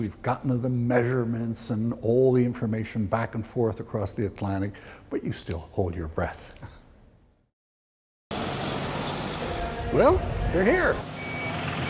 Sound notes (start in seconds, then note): 8.3 diesel engine purrs